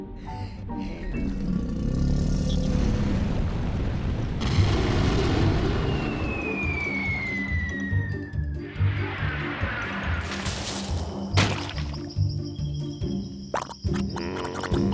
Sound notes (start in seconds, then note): 0.0 sighs; 1.5 volcano growls; 4.5 bang; 5.7 falling object whistling; 10.0 leaves rustle; 10.0 quicksand splats; 13.5 quicksand bubbles